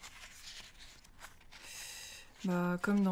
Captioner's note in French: soupir long